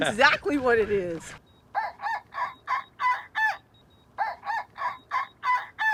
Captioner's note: mimicking turkey squawking